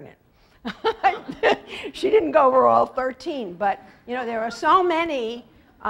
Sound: laugh

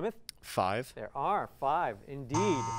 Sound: buzzer

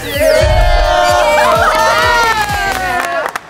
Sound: cheering

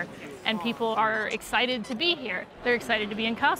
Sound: horn squeaking

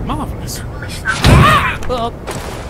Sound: door SHUT!

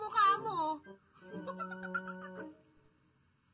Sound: laughs

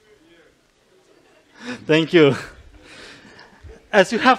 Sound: chuckles

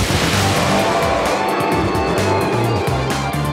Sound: roaring

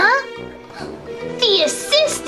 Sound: assistant gasping

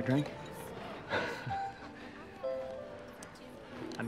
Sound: laughs

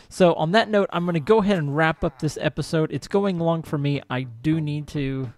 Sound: villager chatters

